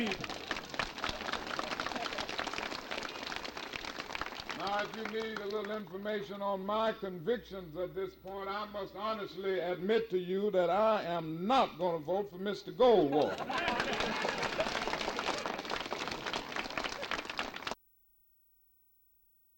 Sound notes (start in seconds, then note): 0.0 crowd clapping; 13.1 crowd clapping